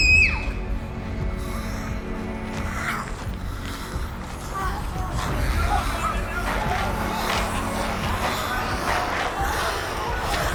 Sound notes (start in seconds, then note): 0.0 child screams; 1.7 dramatic music; 1.7 zombies snarling